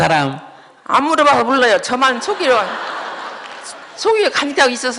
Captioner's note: audience Laughter